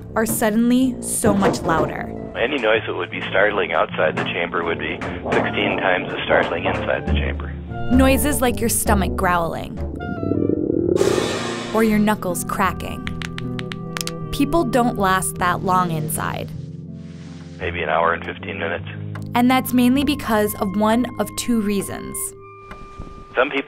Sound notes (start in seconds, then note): 9.9 thunderous growling; 13.0 knuckles cracking and popping